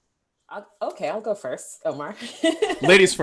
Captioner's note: laughing